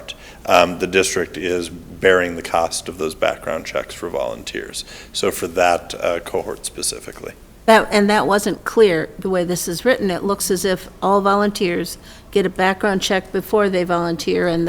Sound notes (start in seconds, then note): none